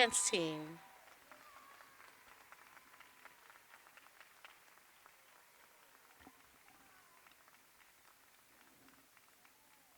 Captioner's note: cheers and applause